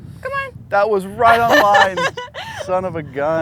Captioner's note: laughs